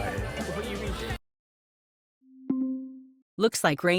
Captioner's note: Heartstopper audio cuts out; Siri “ding”